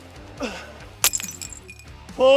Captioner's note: clay shatters